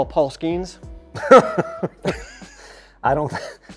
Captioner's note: laughing